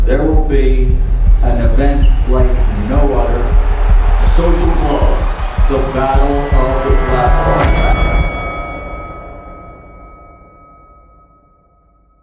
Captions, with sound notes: there will be an event like no other. Social Gloves. The Battle of the Platforms. (bell ringing)